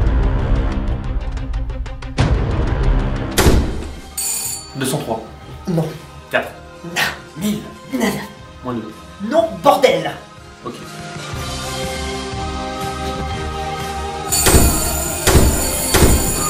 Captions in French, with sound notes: *porte qui claque* *sonnette* 203 ! Non ! 4 ! Nah ! 1000 ! Nada ! -2 ? NON, BORDEL ! Ok. *sonnette en continu et porte qui claque plusieurs fois*